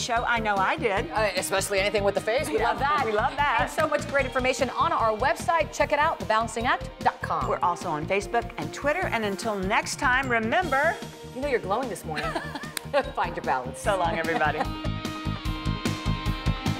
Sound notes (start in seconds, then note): 12.1 laughter